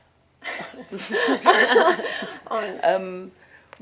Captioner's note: all laugh